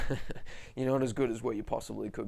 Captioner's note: laughs